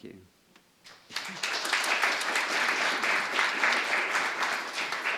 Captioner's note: applause